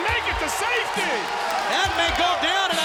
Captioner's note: crowd cheering